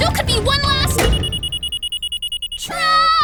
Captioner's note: beeping